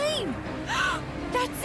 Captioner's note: gasp